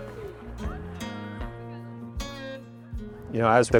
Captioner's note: people laughing; people murmuring